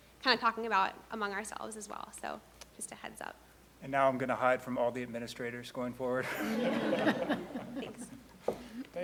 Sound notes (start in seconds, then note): 6.3 laughing